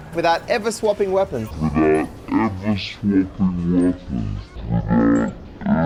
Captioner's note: deep, slowed down voice